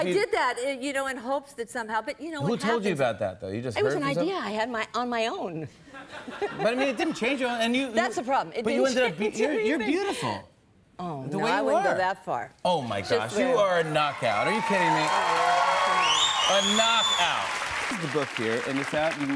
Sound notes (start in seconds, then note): 15.6 applause